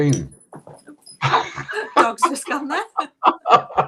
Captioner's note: laughing